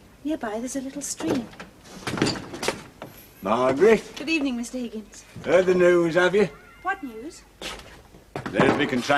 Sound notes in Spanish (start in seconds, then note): 1.9 Se abre la puerta